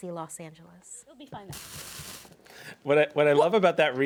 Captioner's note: faintly speaking